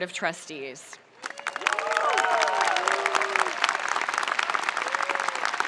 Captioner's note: spectators applauding